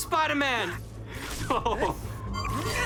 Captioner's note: chuckles